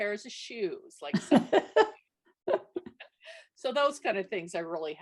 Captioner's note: laughs